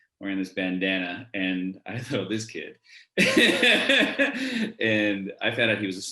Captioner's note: laughs